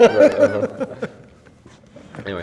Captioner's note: laughs